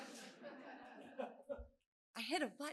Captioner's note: laughter